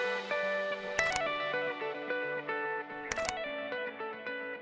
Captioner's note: camera clicking